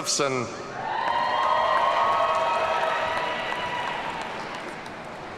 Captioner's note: audience cheering